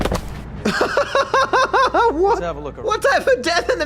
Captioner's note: laughs